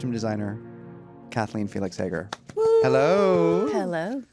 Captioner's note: cheering